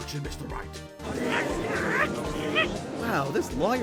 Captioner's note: crowd murmurs